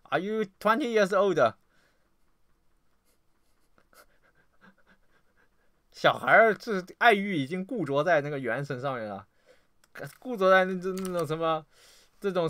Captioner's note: dog